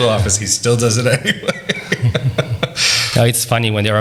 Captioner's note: laughs